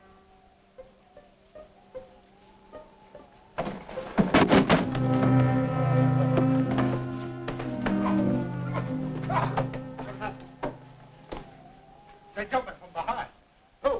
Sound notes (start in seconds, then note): 4.0 boxes thudding; 4.7 pensive music; 9.2 Andy grunting